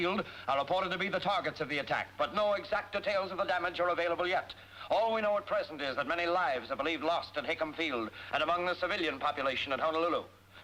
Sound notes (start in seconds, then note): none